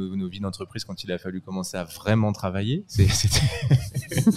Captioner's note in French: rires